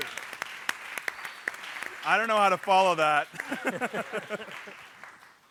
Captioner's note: laughter